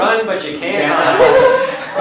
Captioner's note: laughter